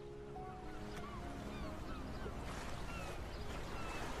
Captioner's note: birds chirping